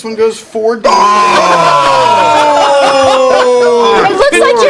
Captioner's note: yelling